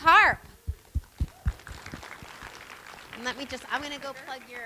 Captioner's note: applause